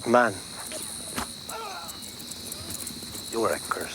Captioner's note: rider groans